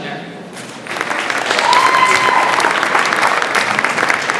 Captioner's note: audience applauds